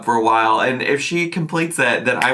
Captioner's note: clapping